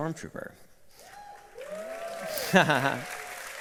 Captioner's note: cheering and applause; laughs